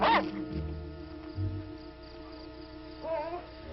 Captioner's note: dog barking; mysterious music